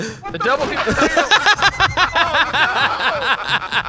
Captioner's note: laughing